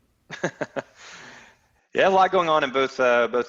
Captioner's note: laughs